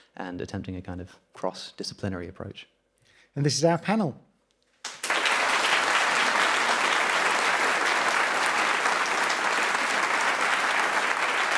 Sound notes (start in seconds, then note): 4.8 audience applauding